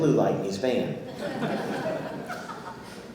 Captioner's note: audience laughing